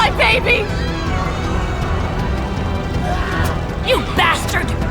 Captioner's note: screams of anguish